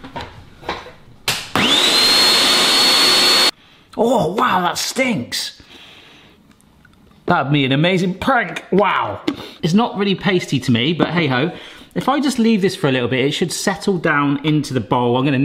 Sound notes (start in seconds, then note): 1.5 blender hums